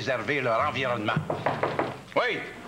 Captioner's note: On frappe à la porte